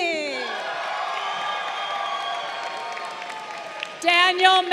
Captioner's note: crowd cheering